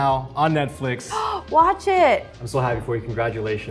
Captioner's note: Arden gasps